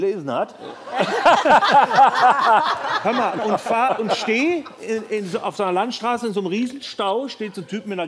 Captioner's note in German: Lachen